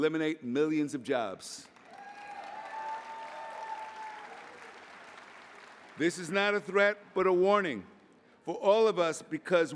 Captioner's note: applause